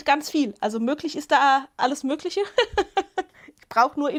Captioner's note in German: Gelächter